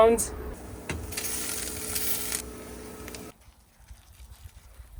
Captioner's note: food sizzling